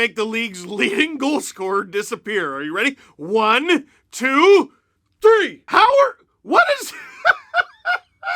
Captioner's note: pure laughter